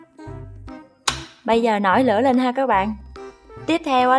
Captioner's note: tachhhhhhh